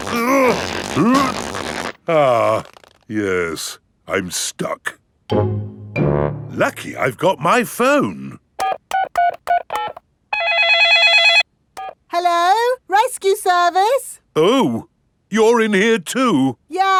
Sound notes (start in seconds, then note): 0.0 grunting; 8.6 dialing; 10.3 cell phone ringing